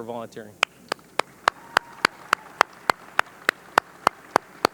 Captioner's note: audience clapping